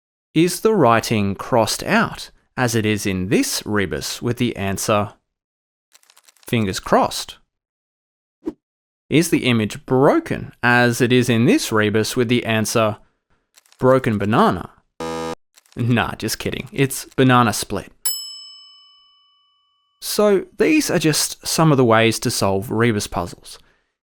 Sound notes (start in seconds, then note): 15.0 buzzer sounds; 18.0 bell dings